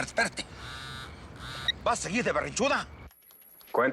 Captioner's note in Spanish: Vibra el celular